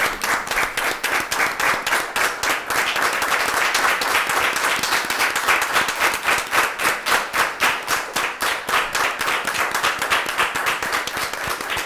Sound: applause

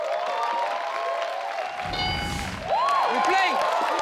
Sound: crowd cheering

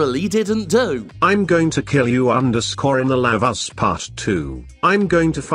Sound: Robotic voice reads

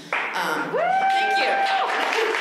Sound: applause

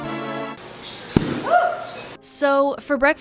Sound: biscuits popping

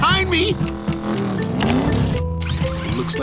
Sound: revving

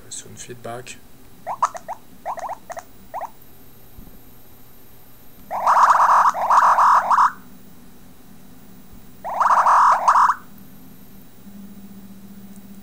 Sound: sound beeps

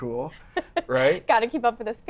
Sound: laughs

